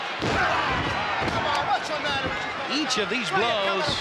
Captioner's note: body thuds